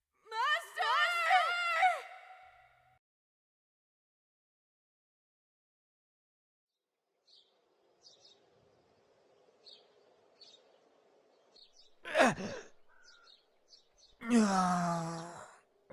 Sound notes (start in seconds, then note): 8.0 birds chirp; 12.0 The Mage groans in pure agony; 14.2 painful groan